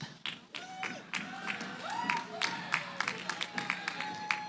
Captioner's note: cheering, applause